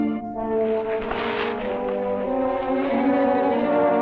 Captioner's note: bushes rustling; tense orchestral music continues